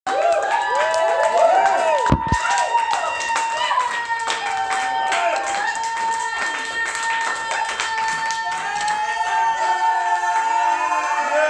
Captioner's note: applause